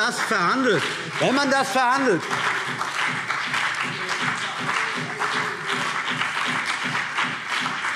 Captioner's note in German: Beifall CDU und BÜNDNIS 90/DIE GRÜNEN